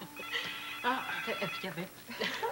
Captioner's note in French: Le téléphone sonne